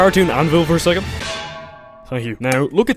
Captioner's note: bonk